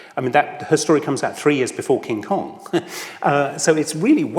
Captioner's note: laughs